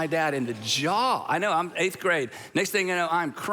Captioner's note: congregation gasping